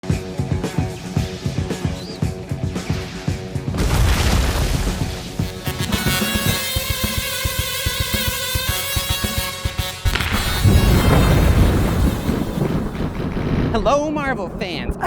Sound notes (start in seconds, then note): 3.6 thunder crashing; 7.0 musical Tesla Coils playing